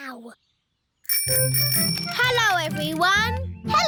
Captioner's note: bicycle bell ringing